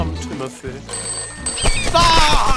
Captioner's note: phone rings